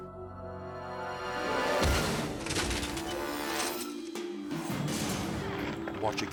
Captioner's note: body thumping, bike clattering